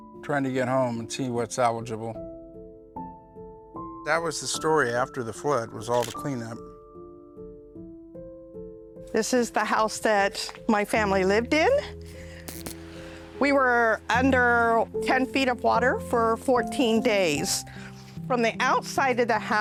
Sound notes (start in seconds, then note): 6.0 camera shutter clicks